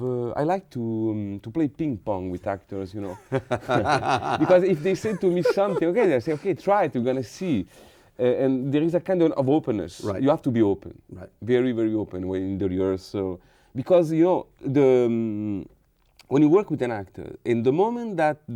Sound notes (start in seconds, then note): 4.6 laughing